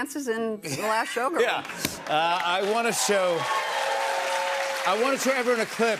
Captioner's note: cheers and applause